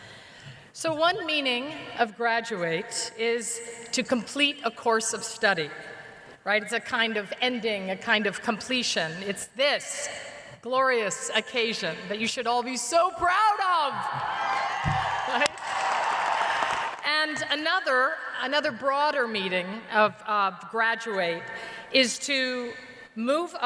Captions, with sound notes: for a very specific reason. So, one meaning of "graduate" is to complete a course of study. Right? It's a kind of ending, a kind of completion. It's this glorious occasion that you should all be so proud of! [ Cheers and applause ] Right? And another -- another broader meaning of "graduate"